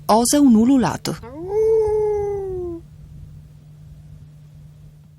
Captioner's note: human howling